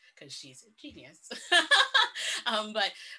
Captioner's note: laughs